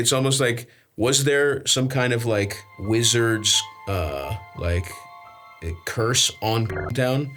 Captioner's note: beeps